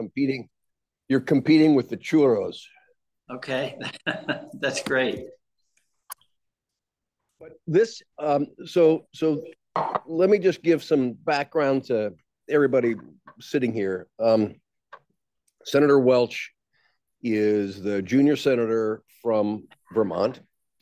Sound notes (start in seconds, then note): 3.8 chuckles